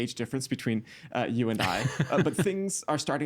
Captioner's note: laughing